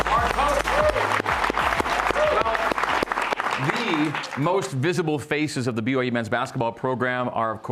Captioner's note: cheers and applause